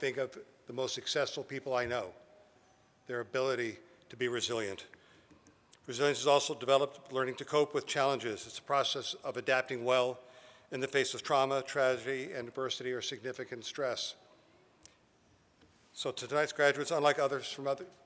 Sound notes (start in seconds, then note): none